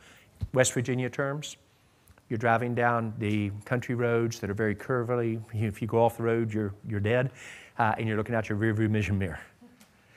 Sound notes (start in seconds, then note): none